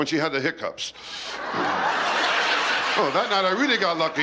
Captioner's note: laughter